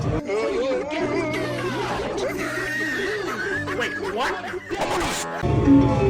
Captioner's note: multiple meme sound effects interposing with each other